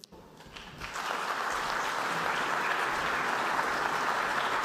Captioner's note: applause